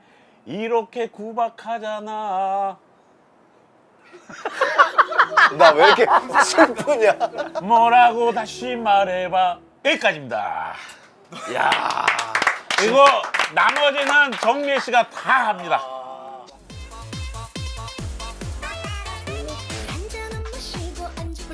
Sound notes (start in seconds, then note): 11.4 clap